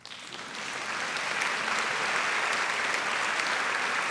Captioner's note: audience applauding